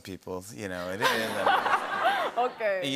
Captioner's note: laughter